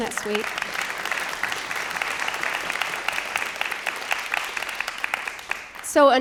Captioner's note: applause